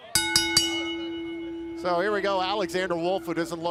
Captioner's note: bell